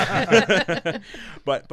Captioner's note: laughing